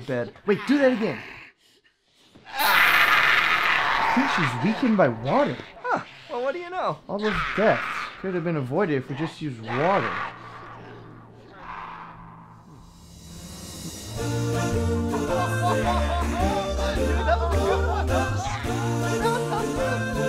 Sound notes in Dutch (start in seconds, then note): 2.4 gekrijs; 9.0 demon blijft krijsen; 17.0 gelach